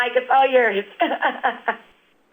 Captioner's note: laughs